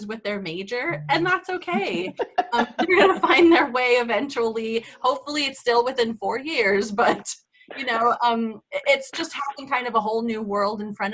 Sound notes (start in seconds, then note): 1.5 laughs